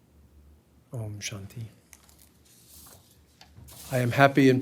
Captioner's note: speaking hindi